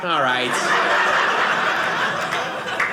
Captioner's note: audience laughing